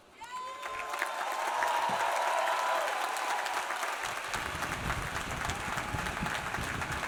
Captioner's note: audience cheering; audience applauding